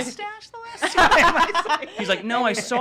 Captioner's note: laughing